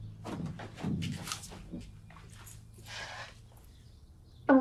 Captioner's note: footsteps thudding